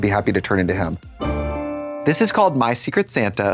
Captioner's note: bright chime